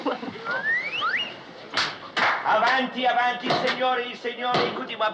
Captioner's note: laughing